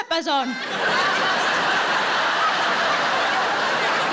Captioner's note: audience laughing